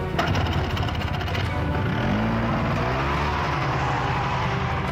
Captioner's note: engine revving